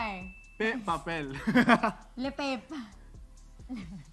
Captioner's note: chuckles